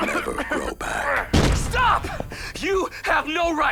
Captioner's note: door breaks